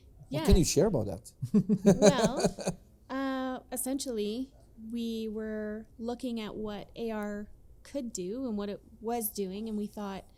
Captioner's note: laughing